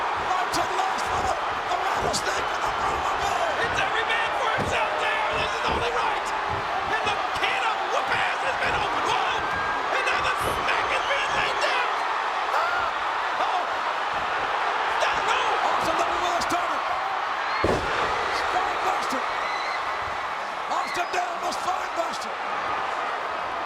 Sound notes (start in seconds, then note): 17.6 body thuds